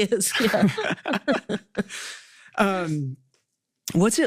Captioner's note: both laughing